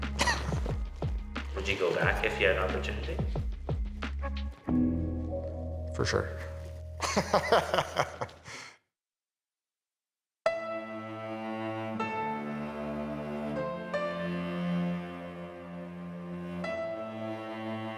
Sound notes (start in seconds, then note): 0.1 laughs; 7.0 laughs; 10.5 intense piano music